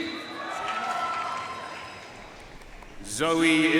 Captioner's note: audience cheering and applauding